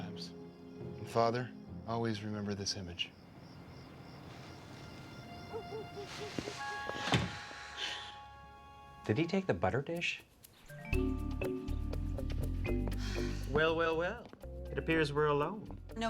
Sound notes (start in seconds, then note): 6.9 door slams; 12.9 sighs